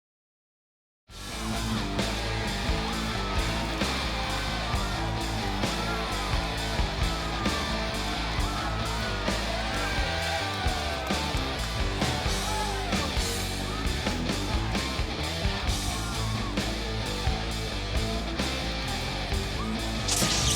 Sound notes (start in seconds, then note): 1.2 crowd clamoring; 1.2 fun rock music; 6.3 crowd clamoring; 20.0 electricity crackling; 20.3 crowd clamoring